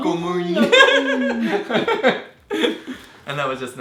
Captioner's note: laughing